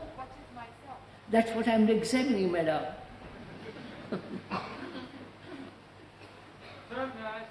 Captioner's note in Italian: risate